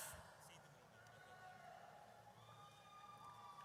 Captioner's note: audience cheers